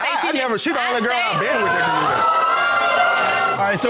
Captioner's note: audience exclaims